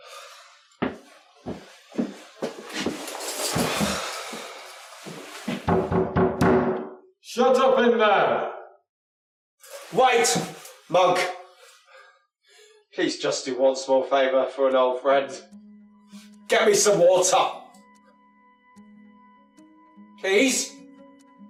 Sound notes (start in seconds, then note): 0.1 doctor sighs in defeat; 5.6 knocking on door